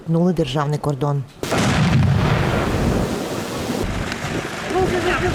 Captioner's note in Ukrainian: звук вибуху